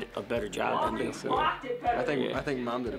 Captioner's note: faintly speaking